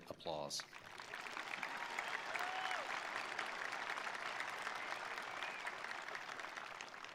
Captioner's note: attendees applauding; attendees cheering